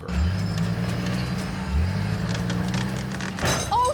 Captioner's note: wheels spinning